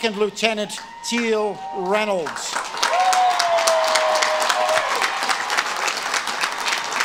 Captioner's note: audience claps and cheers